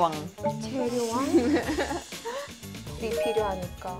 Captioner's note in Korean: 꺄르르르